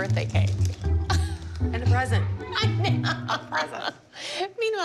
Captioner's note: laughing